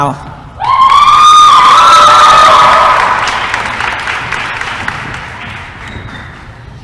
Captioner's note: applause & cheering